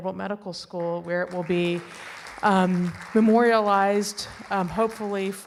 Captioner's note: audience applauding